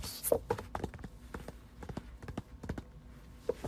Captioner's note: more paper tapping